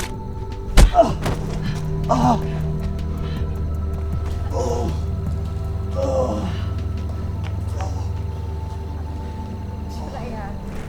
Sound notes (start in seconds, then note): 6.7 Johnny continues to grunt